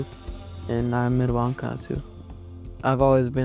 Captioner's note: speaking Dakota language